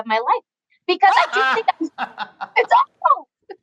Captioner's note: both laughing